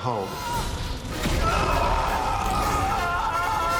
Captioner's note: screaming